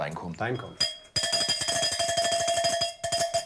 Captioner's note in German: Es läutet